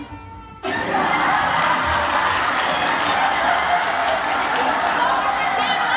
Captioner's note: applause